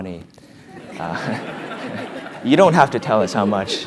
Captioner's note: laugh